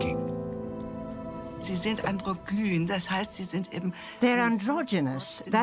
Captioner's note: in German